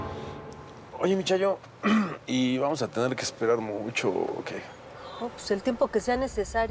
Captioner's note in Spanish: carraspea